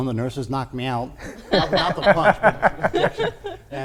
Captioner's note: laughing